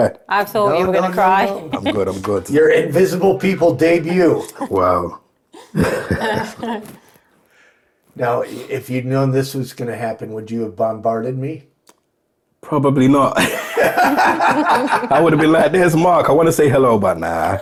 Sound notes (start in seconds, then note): 5.5 chuckling; 13.4 laughing